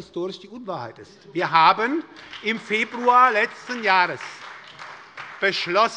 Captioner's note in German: Beifall bei der SPD